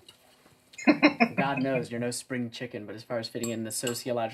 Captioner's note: laughing